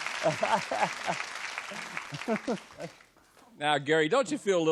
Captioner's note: applause